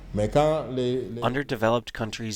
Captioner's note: through translator